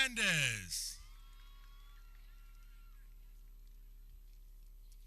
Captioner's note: people cheering